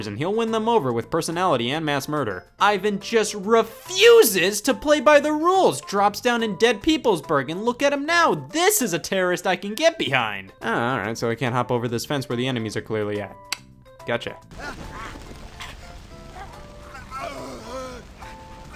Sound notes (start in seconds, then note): 13.6 tongue clicks; 16.4 man groans